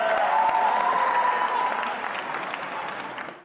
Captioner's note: cheering